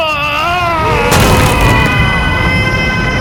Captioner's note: crashing sounds